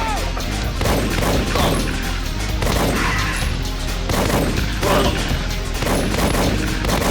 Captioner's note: dramatic music; gunshots blasting